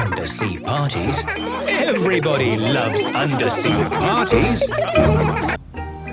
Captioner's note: laughter